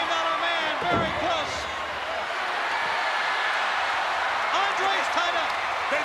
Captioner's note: applause